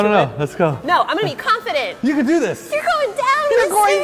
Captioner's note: high pitched voice